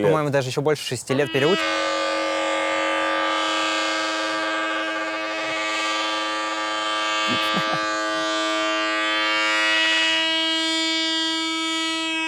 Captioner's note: some boat going nuts